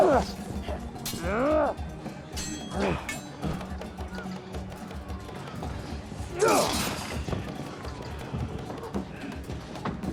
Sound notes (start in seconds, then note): 2.3 swords clanging; 6.3 grunts